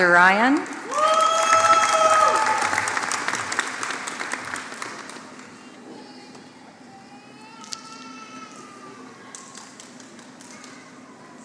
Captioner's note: applause